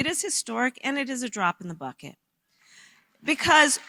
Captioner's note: applause